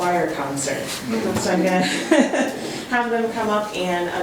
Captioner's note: laughs